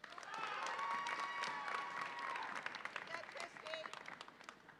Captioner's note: audience applauds and cheers